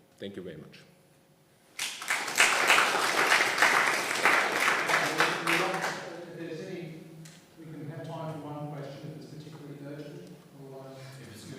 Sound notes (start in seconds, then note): 1.7 attendees applauding